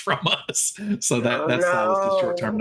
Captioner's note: giggling